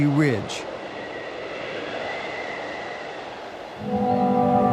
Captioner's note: wind whipping; mysterious music